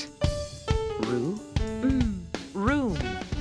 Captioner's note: making "m" sound